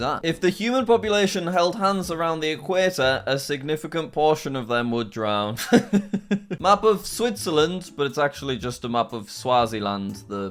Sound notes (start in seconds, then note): 5.6 laughing